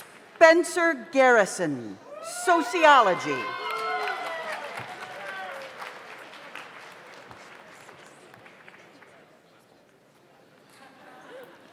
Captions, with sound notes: Spencer Garrison, Sociology. (audience applauds) (audience cheers)